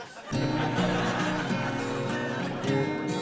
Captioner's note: audience laughing; guitar music